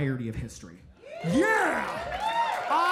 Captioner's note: audience cheering